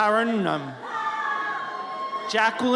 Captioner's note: audience cheers